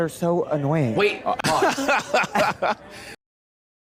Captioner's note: laughs